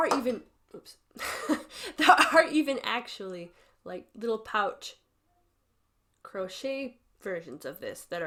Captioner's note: laughs